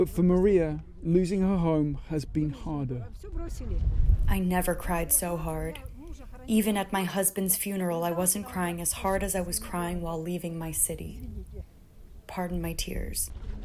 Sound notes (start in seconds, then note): 4.6 through translator